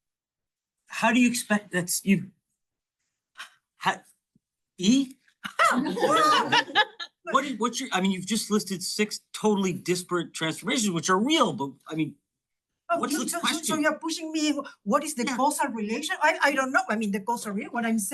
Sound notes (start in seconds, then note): 5.4 all laughing